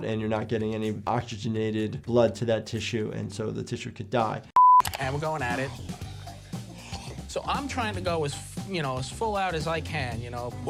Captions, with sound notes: and you're not getting any oxygenated blood to that tissue and so the tissue could die. (screen beeping) - And we're going at it. So I'm trying to go as full out as I can.